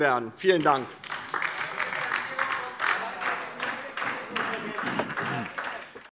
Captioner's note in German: Beifall DIE LINKE - Zurufe AfD